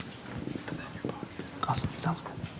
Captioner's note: indistinct conversation